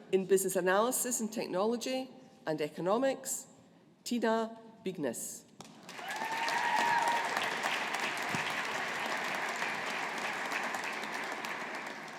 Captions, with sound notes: In Business Analysis and Technology and Economics, Tina Bygnes. (AUDIENCE APPLAUDING)